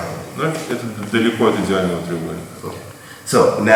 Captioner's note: speaking in a foreign language